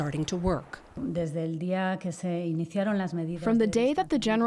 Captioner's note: through translator